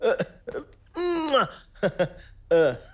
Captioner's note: manu kisses